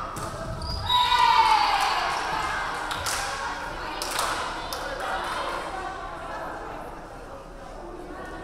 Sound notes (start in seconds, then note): 0.9 crowd cheering; 1.3 referee whistling